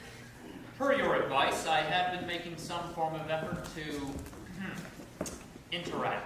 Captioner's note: ahem